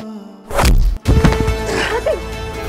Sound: thud

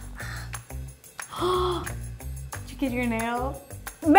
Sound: gasps

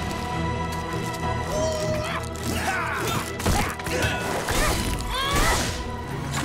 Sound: grunting

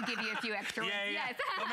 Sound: laughter

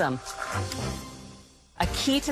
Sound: blender whirs

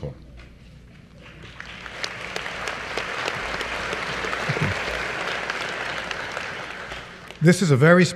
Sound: applause

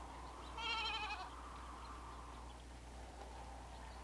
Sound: bleating

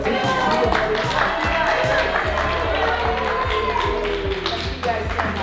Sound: everyone applauds

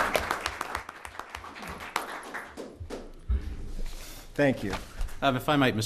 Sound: applause

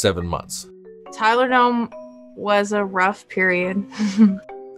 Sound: laughs

